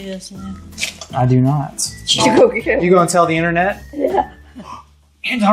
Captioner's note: laughs